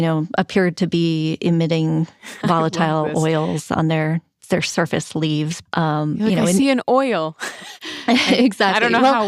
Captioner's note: laughs